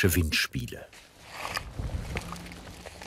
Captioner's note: rustling